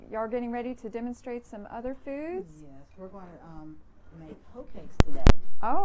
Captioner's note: none